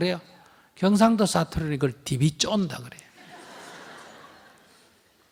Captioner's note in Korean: 청중 웃음